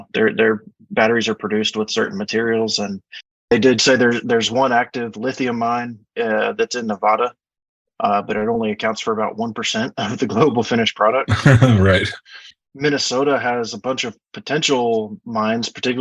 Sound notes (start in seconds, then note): 11.3 laughs